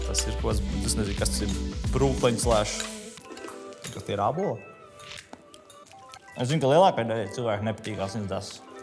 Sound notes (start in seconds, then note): 2.5 loud eating noises